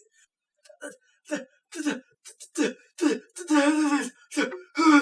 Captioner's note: Scrooge splutters; gasping